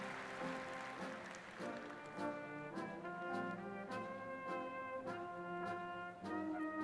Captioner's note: applause